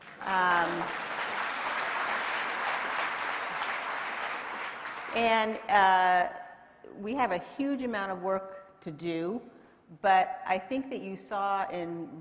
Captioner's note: applause